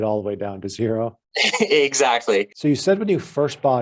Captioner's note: laughs